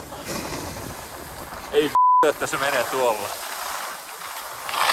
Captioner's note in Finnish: taustapuhetta